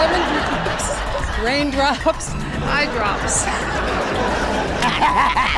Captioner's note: laughter; chuckles; laughing